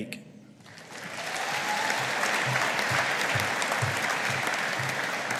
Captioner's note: audience applauding